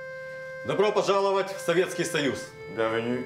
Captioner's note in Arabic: الصوت المنطوق بالروسية